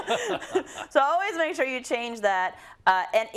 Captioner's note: laugh